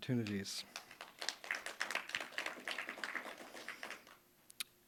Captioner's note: audience applauding